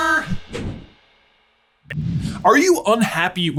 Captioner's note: logo whooshing